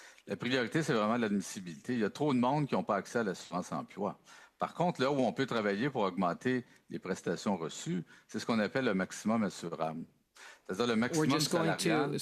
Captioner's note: speaking French